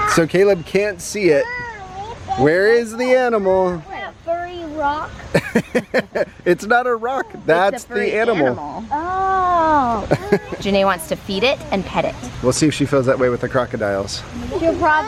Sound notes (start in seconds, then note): 5.2 dad laughing